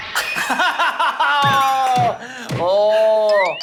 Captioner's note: hitting the table as he's embarrassed